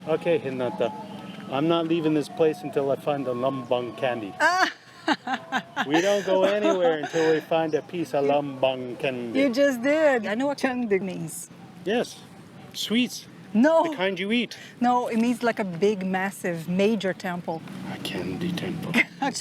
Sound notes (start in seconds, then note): 4.4 laughs